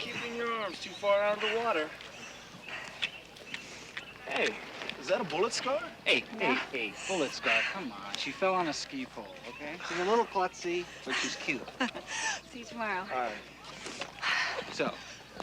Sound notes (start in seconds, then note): 10.8 chuckles; 13.7 exhales